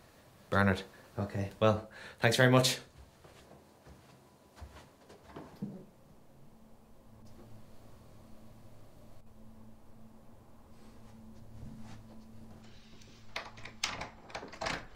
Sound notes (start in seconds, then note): none